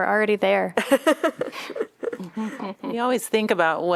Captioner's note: laughter